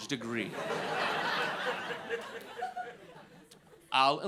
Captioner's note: audience laughing